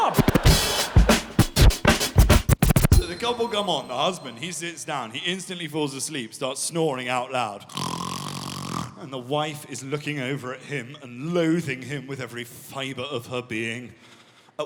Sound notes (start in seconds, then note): 0.0 audience laughing; 0.0 upbeat instrumental music; 7.7 snoring